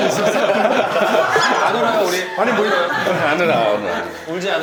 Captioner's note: chuckles